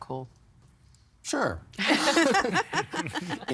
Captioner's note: all laughing